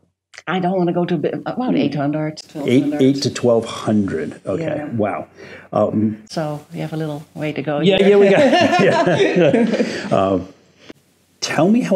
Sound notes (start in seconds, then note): 8.0 laughs